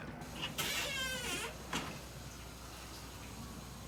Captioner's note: door creaks